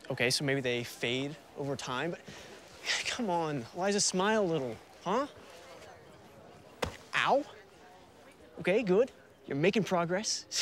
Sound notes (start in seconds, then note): 6.8 fist thuds